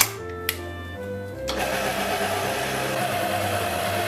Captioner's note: loud machine sound